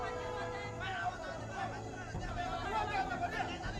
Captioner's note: shouting continues